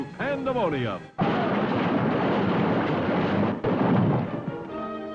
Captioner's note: crash